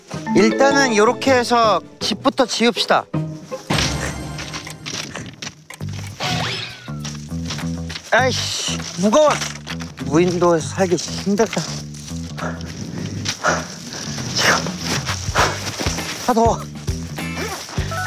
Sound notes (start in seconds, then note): 12.2 puffing; 12.3 huffing